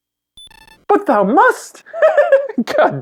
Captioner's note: high-pitched laughter